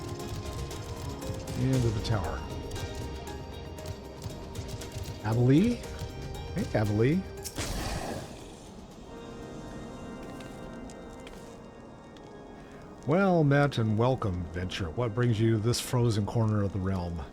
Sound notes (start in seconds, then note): 7.4 gunshot